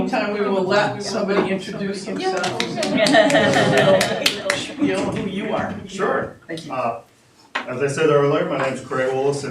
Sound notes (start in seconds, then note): 2.6 audience laughing